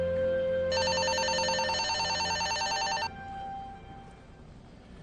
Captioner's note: phone ringing